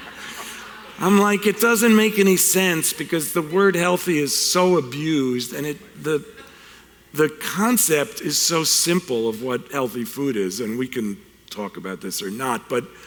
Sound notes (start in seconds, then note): 0.0 laughing